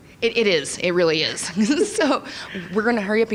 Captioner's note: laughing